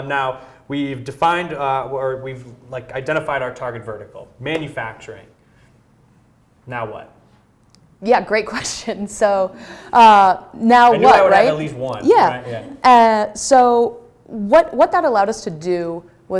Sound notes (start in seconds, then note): 11.0 laughs